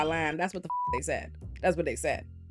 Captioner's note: beep